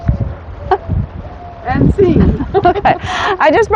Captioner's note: laughing